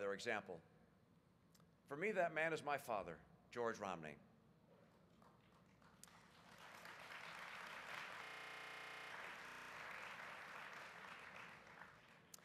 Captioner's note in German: Applaus